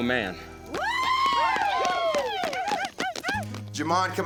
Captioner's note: cheering, applause